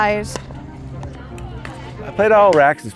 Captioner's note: pickleball bouncing